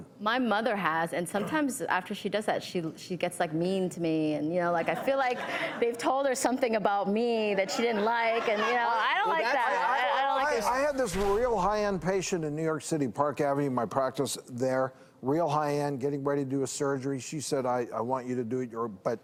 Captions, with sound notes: - My mother has, and sometimes after she does it, she gets like mean to me, and you know, I feel like they've told her something about me that she didn't like, (laughter) and, you know, I don't like that. - I had this real high-end patient in New York City, Park Avenue, my practice there. Real high-end, getting ready to do a surgery, she said, "I want you to do it, you're a,